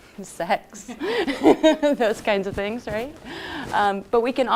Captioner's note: laughs